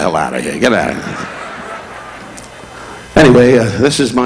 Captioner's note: audience laughing